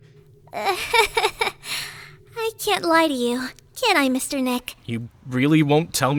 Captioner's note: laughs